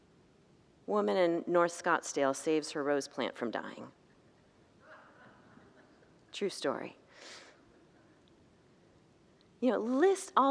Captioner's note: congregants laugh